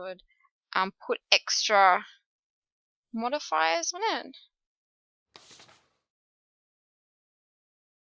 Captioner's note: paper flip